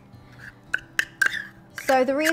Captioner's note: spoon scraping